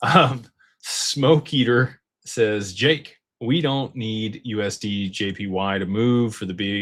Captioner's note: clears throat